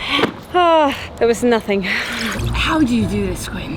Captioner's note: sighs